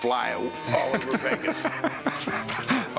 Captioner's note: rick laughs